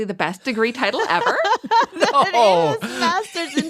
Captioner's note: laughs